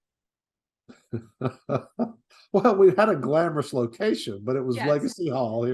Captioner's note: laughs